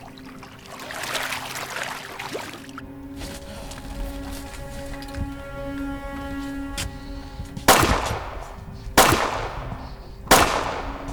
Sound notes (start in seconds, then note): 3.6 gunshots blasting